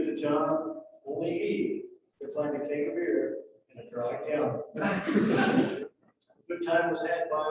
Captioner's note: laughter